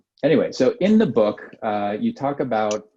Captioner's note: none